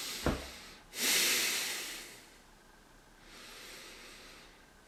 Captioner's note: heavy breathing